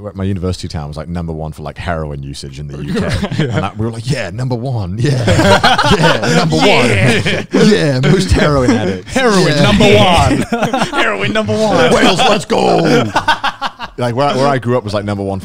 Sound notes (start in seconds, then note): 5.4 laughs; 13.2 laughs